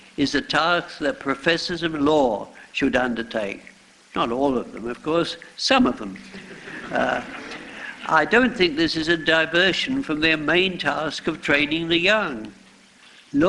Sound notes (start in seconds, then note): 6.3 laughter